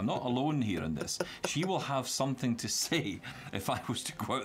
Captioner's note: chuckles